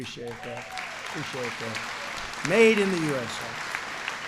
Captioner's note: applause